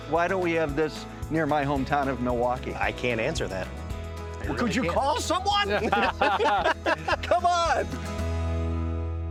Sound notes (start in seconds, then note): 4.5 group laughs cheerfully